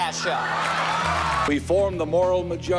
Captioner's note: laughter and applause